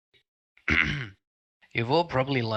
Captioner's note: clearing throat